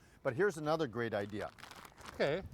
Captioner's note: plastic crunching